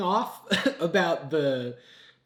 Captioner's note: coughs